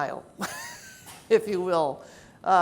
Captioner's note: laughs